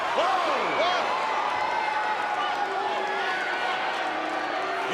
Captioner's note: crowd yelling